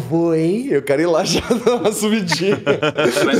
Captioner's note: laughter